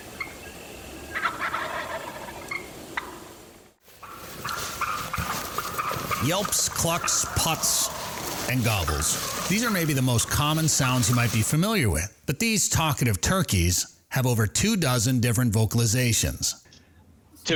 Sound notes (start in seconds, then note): 0.0 turkeys gobbling; 4.4 leaves rustling